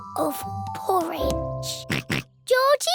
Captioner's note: oinks